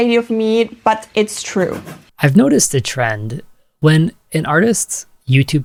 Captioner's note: scribble sound